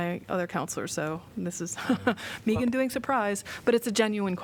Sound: laughter

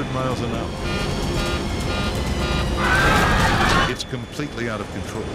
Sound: computer beeps; passengers scream

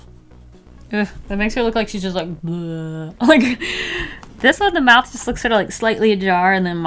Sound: moans

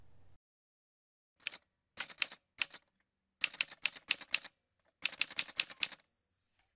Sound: typewriter Sounds

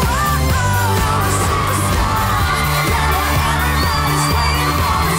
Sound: upbeat rock music; women screaming

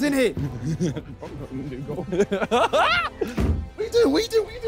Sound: laughing

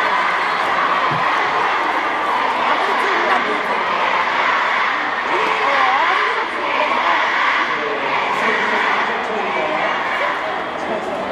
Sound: fans chant "It's okay!"

